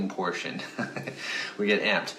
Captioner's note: chuckling